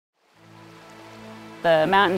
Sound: running water

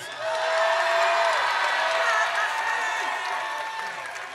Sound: audience cheers

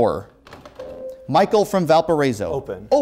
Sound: beeping

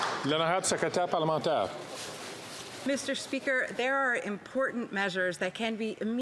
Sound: some Applause

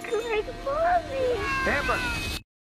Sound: screaming

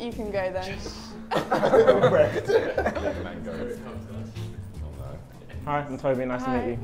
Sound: everyone laughs

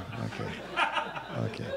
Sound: laughter

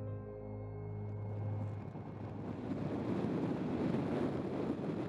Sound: rushing wind

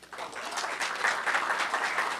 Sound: applause

